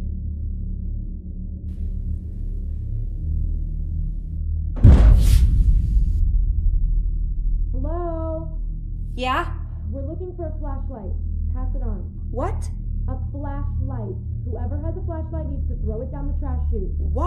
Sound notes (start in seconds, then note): 4.7 bang